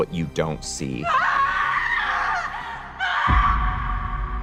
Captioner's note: screaming